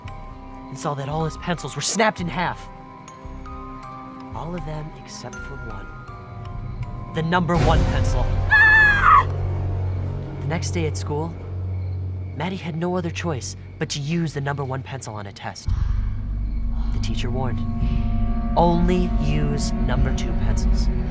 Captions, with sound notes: and saw that all his pencils were snapped in half. All of them except for one... the number one pencil. [screaming] The next day at school, Maddie had no other choice but to use the number one pencil on a test. The teacher warned him. Only use number two pencils.